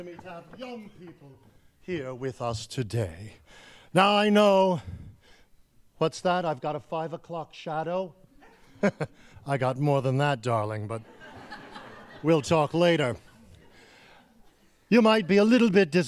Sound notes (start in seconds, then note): 13.1 laughing